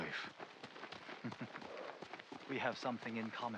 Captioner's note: laughs